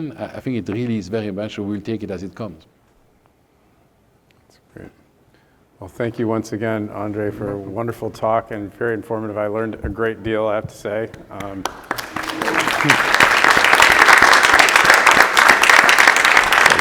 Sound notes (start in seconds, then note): 11.4 all applauding